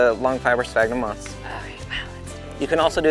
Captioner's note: whispers